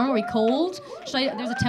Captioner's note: audience cheering